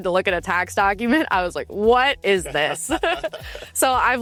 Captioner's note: both laughs